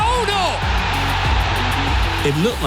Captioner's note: crowd cheering